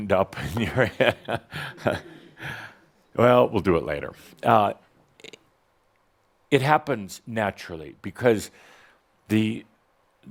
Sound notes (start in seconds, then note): 0.4 Adamus chuckles